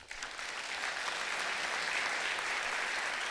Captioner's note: clapping